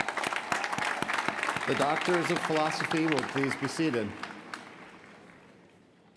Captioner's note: applause